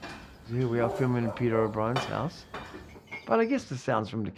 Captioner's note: crockery being moved